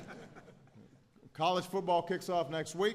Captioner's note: laughter